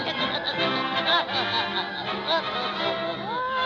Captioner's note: Popeye chuckling